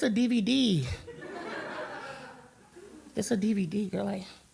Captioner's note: crowd laughter